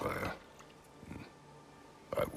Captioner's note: grunt